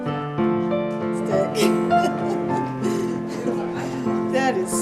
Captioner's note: laughs